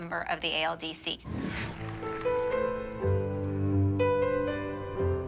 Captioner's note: applause